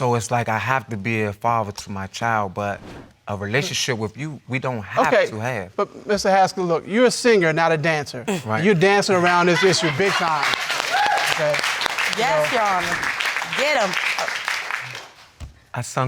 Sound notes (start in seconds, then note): 9.0 audience cheering